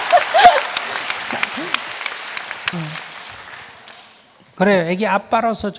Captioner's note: questioner laughs/Audience claps